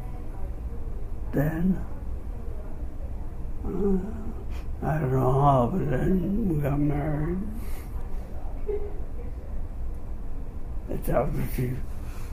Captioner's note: laughs slightly